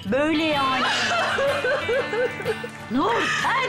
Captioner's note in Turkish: Ağlama sesi